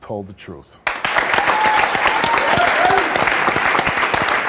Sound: audience applauds

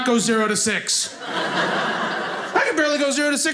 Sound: audience laughing

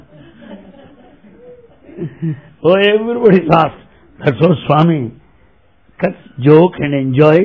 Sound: laughter

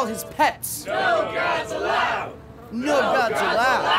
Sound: crowd

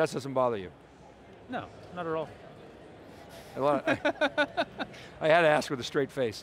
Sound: he laughs

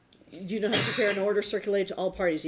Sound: sneezes

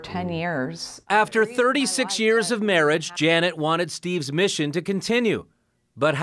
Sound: chuckles

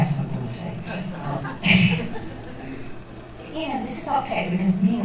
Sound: laughter

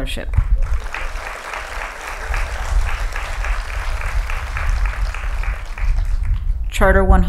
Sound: applause

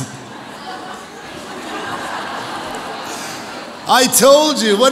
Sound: audience laughs

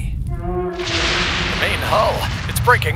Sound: metal groaning

